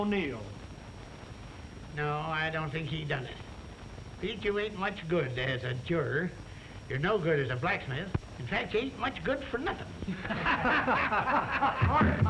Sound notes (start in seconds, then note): 10.0 laughter